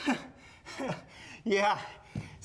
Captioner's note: Sam gasps and chuckles